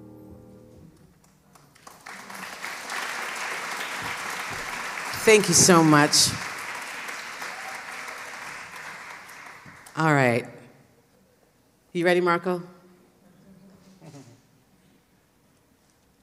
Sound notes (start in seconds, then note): 0.0 piano Music; 1.2 applause